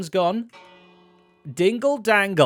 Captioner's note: bell dings